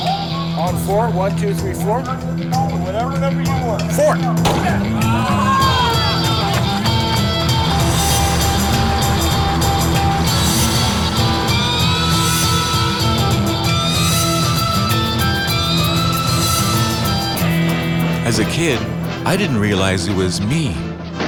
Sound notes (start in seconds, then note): 4.4 gunshot